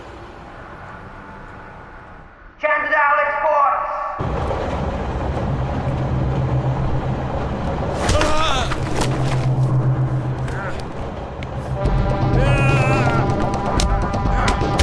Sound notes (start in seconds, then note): 2.7 William On Speaker; 8.4 yelling